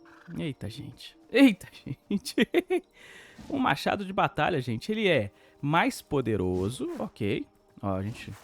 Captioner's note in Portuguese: risadas